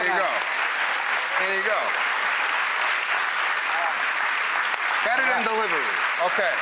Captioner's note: clapping